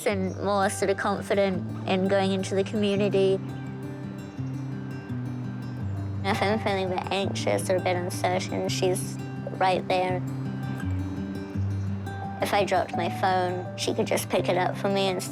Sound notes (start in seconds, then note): none